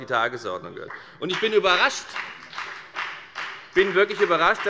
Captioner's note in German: Beifall bei der FDP